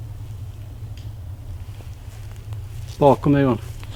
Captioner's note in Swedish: Steg som hörs i skogen